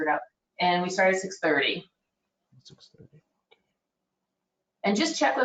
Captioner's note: none